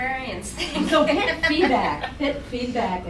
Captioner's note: laughing